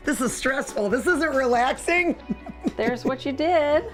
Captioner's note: laughs